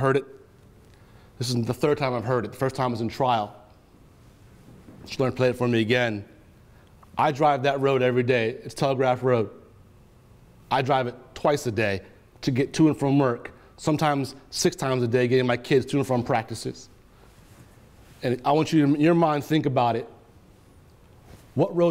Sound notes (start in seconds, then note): none